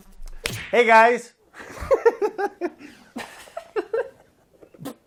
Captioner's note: laughter